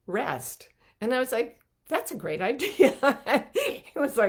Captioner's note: chuckling